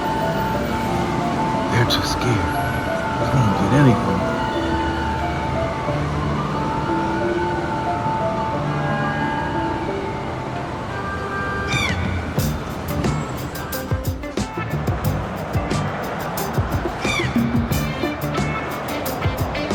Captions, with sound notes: - They're too scared. I won't get anything. (voice squeaking) (energetic music)